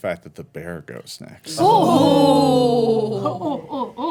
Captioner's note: ohhs